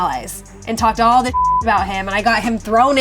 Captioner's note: beep